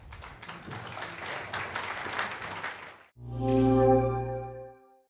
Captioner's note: applause, music